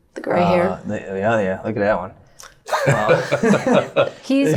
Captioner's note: laughing